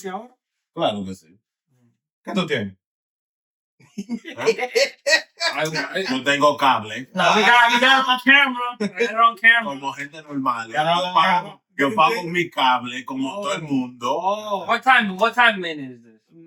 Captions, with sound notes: (Speaking In Foreign Language) (Laughing) (Speaking In Foreign Language) We got it on camera, we got it on camera. (Speaking In Foreign Language) What time, what time, man, is this?